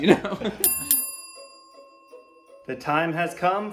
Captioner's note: bell ringing